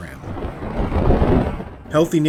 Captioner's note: road noises